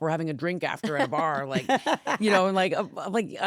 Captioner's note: laughs